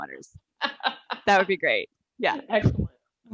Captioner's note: laughing